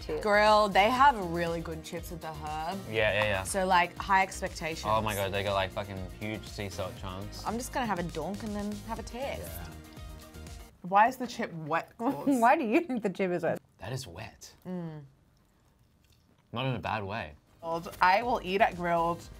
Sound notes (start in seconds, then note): 15.0 hums agreement